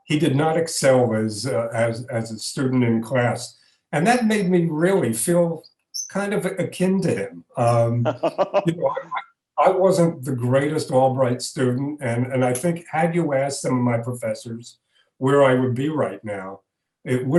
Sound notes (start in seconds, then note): 7.9 laughing